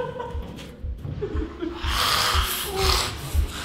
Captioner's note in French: James rugit